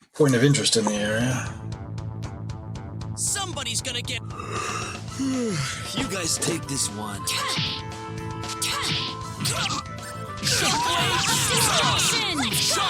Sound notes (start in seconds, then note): 7.1 yawning